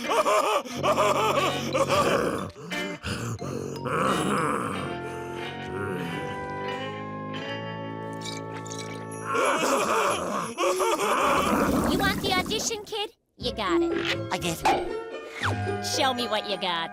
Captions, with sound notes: [catching its breath] [both laugh] You want the audition kid? You got it! I do. Show me what you got.